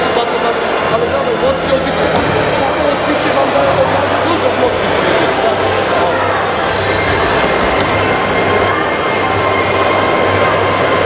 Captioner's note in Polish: odgłosy hali sportowej, hałas, szum